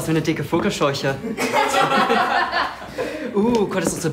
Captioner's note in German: Einige Jungs lachen